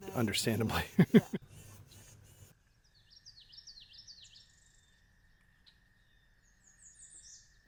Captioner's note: birds chirping